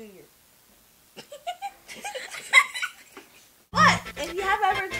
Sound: laughs

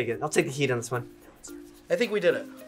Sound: whispers

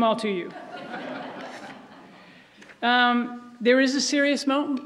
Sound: audience laughs

